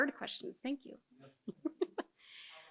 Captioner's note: chuckles